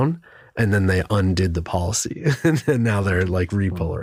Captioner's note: laugh